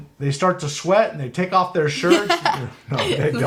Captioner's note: laughs